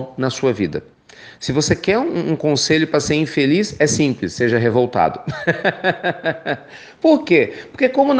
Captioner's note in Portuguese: risos